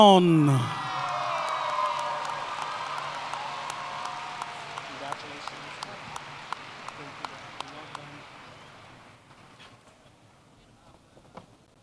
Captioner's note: applause